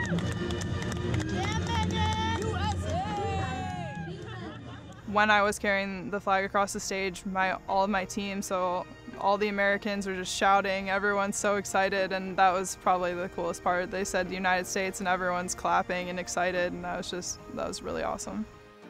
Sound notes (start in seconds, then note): 4.1 cheering